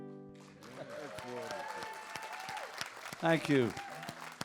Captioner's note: audience applauds